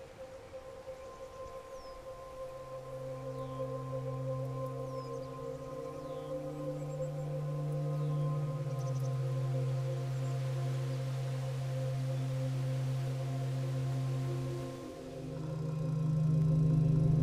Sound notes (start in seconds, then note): 1.5 birds chirping; 1.5 soft music